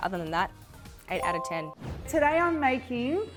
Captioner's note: bell chiming